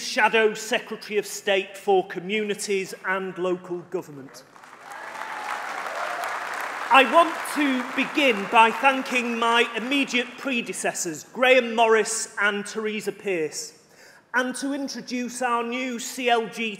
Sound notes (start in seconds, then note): 7.5 applause